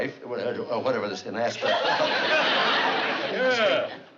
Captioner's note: stuttering